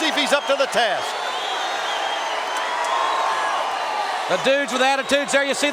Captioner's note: audience cheering